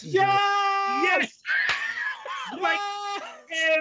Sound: cheers

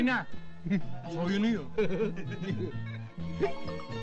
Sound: laughing in the background

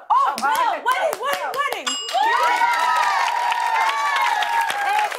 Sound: ding!; cheers and applause

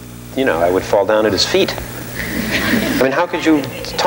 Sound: audience laughing

